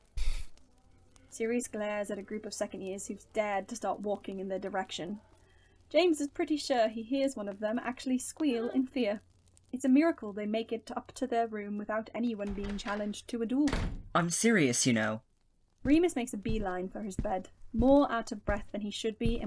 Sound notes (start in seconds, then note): 12.4 door Opens